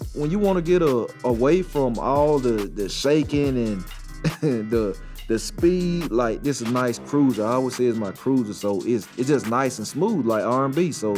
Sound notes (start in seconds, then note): 4.2 chuckles